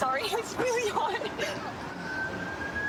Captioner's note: siren wailing